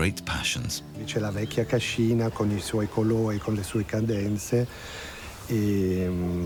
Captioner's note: speaks in foreign language